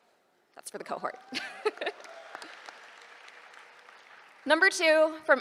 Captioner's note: applause